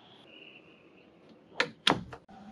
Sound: door closing

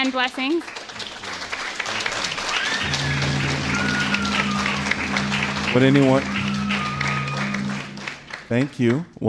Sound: applause

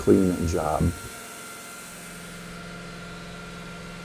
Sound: saw grinding

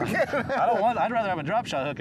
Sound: laugh

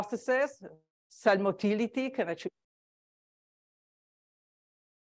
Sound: sound cuts out

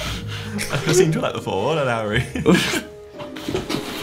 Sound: mumbles

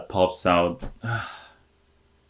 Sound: tired exhale

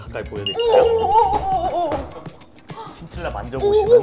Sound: excited

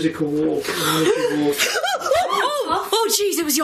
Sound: gasping

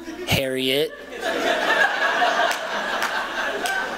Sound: laughter

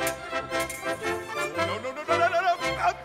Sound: swords clanking

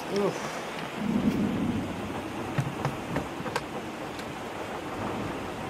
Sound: rain beating; thunder booms

